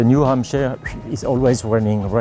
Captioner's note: makes soft whistle with lips